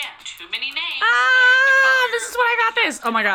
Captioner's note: screaming